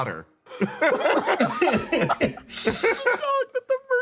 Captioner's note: laughing; more Laughs; still laughing